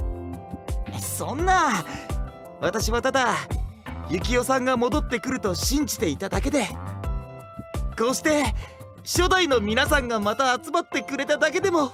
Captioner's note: sobs